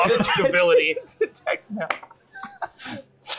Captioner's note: laughing